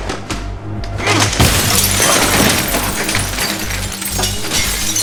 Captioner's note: glass clatters